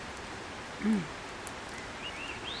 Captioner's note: mmm